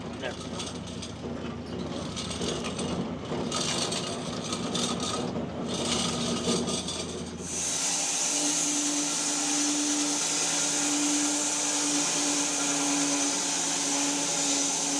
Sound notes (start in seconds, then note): 0.3 saw rattling; 7.4 saw whirring